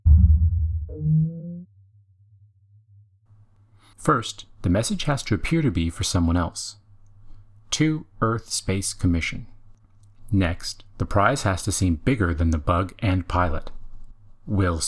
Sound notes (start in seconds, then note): 1.1 vooop!